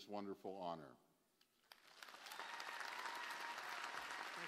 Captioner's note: applause